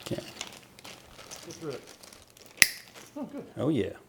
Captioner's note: bags crinkling